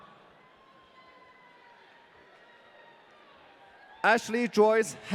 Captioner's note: audience cheering